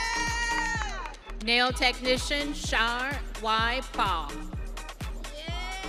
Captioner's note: audience cheering